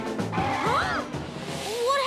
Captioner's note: tires screech